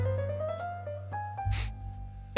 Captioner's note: snif